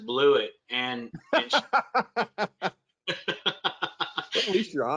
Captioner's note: both laugh